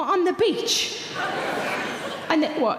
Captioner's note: audience laughing